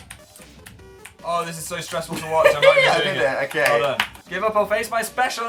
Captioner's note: laughs